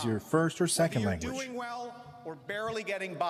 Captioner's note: speaking French